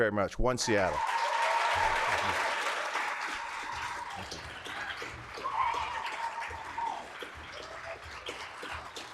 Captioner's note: applause